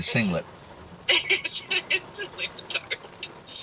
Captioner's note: laughing